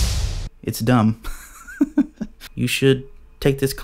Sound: drum music; laughs

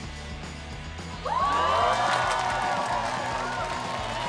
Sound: cheering

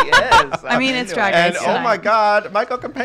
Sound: laughing; voice muffled

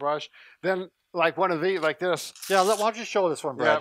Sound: velcro unpeeling

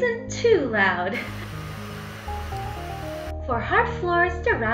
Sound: laughs; vacuum cleaner sound

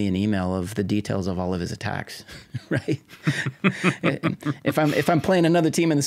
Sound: both chuckling

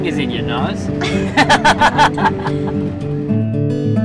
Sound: both laughing; gentle guitar music

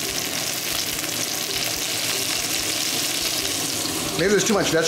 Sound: oil and butter sizzling

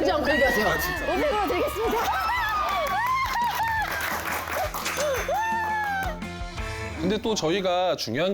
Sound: applause

